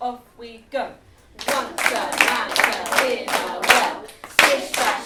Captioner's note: all rhythmically and clapping